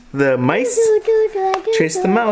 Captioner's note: babbling